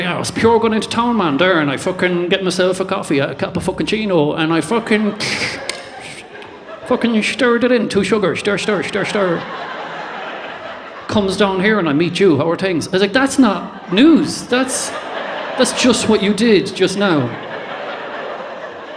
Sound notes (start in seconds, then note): 5.6 click